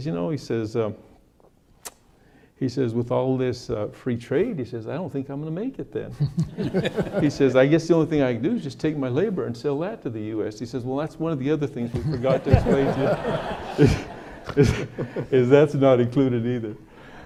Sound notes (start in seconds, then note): 6.2 audience laughing; 13.6 audience laughing